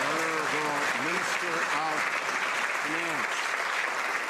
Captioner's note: some Applause